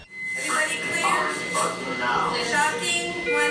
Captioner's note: radio Chatter